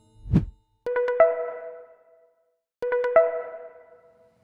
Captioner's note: phone rings